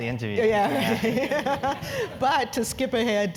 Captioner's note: laugh